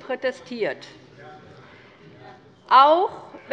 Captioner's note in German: Anhaltende Unruhe